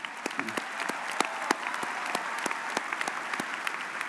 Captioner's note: audience applauds